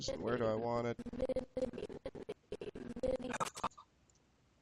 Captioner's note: audio skipping